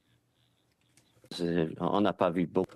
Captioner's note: speaking French